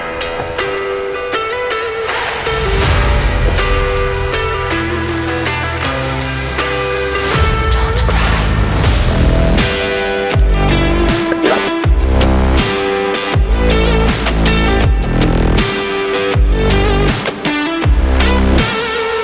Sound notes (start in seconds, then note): 2.0 applause